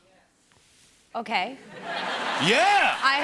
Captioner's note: laughter